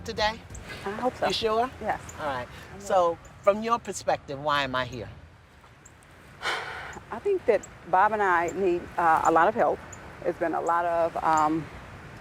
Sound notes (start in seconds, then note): 6.4 sighs